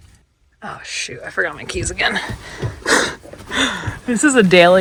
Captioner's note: chuckles